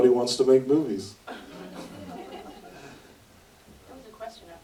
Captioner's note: audience laughter